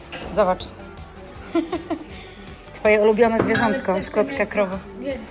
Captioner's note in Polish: śmiech